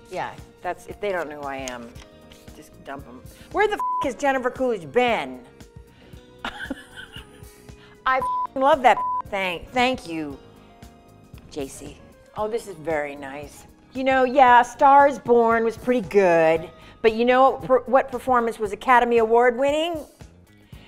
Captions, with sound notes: Yeah, if they don't know who I am, just dump 'em. Where the (beep) has Jennifer Coolidge been? (laughing) I (beep) love that (beep). Thank you, JC. Oh, this is very nice. You know, yeah A Star is Born was pretty good, but you know what performance was Academy Award winning?